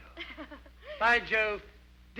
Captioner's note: Becky chuckles